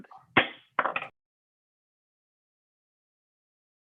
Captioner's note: gavel knocks